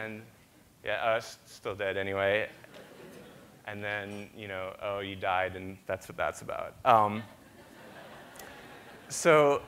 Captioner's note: audience laughter